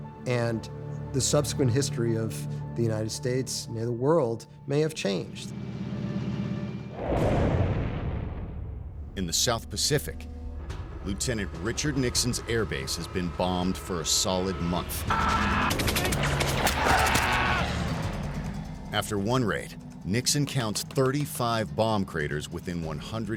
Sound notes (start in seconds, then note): 15.7 gunshots; 16.5 screaming